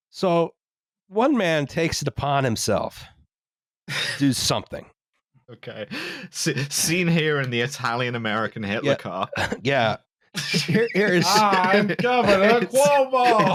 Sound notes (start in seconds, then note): 10.3 laughs